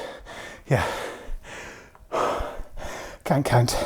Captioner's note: breathing heavily